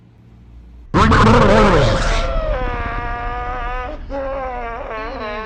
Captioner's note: screaming and crying noise